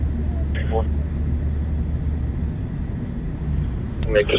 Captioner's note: another Man On Radio; man On Radio